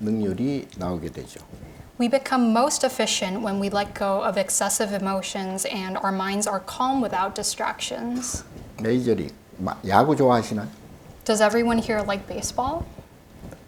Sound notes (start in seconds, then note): 9.0 speaking Korean